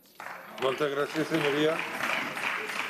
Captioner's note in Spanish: aplausos